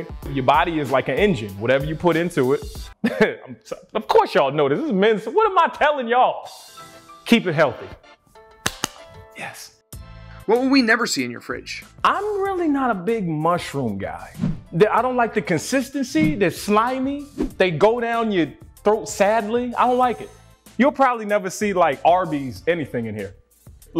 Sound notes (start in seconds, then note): 3.0 chuckles; 8.6 clapping